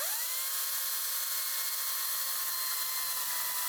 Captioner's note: chainsaw running